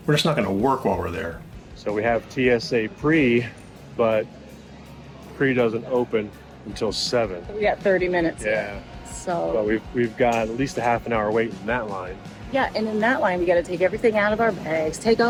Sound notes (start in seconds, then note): none